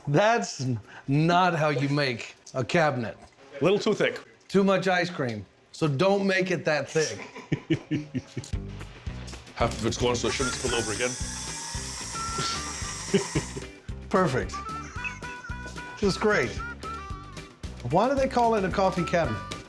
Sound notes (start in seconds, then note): 7.1 laughing; 10.2 whirring sound; 14.8 chuckles